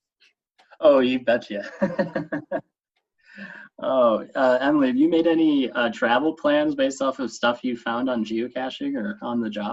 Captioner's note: chuckle